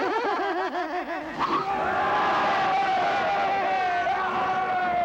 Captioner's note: roaring and cheering